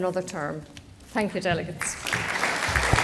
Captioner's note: applause